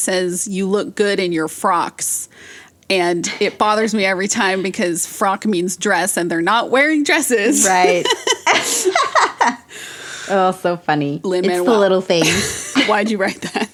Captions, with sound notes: says, "You look good in your frocks." And it bothers me every time because "frock" means "dress" and they're not wearing dresses! [both laugh] Right. Oh, so funny. It's the little things.